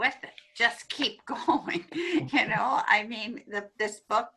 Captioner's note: laughs